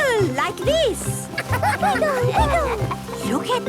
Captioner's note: laughter